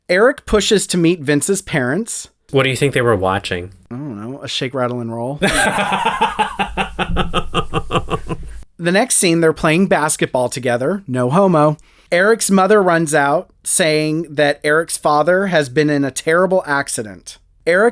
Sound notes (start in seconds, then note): 8.1 laugh